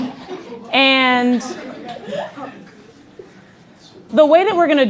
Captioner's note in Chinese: 笑聲